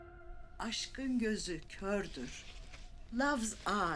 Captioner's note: speaking in a foreign language